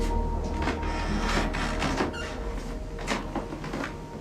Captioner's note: floor creaking